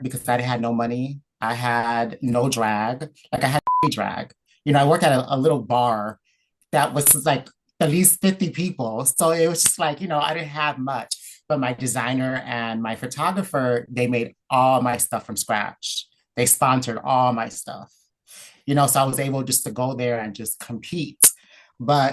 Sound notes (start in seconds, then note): 3.6 beep